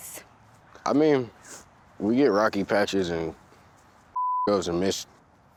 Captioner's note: beep